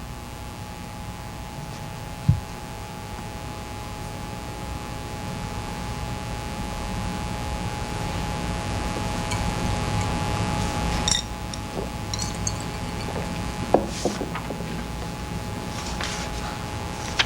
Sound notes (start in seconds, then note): 9.5 ice cubes clinking in glass; 16.0 papers rustling